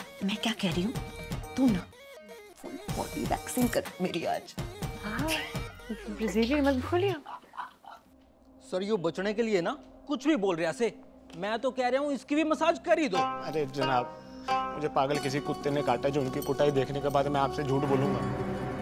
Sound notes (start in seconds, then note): 7.0 chuckles